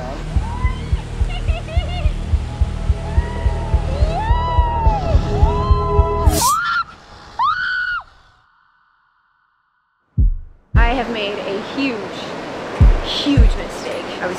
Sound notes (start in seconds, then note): 6.0 horrified Screams